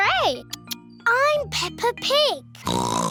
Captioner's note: oinks